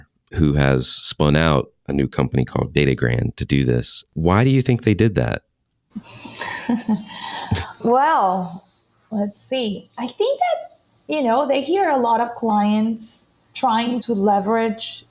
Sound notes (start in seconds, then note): 6.0 laughs